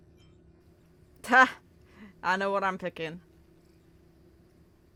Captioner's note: laughs